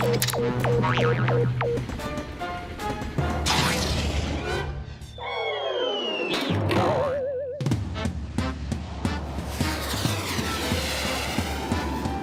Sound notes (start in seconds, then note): 0.5 boing; 4.9 whistling; 6.8 boing; 8.1 jazzy music